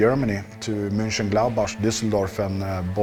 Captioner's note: speaking foreign language